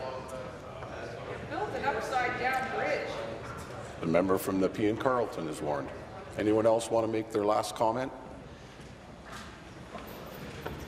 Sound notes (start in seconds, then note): none